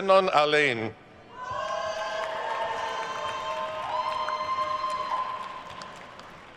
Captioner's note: attendees cheering and applauding